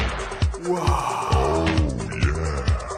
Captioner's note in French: Musique sexy; soupir sexuel ambigu; Musique sexy